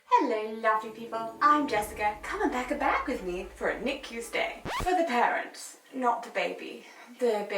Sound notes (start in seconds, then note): 2.6 zipper zipping